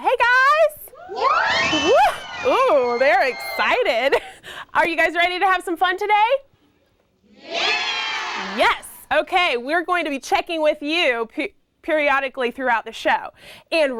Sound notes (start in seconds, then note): 1.0 kids scream and shout; 7.4 kids scream , "YES!"